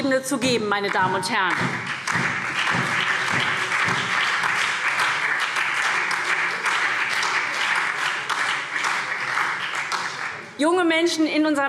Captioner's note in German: Beifall SPD und Freie Demokraten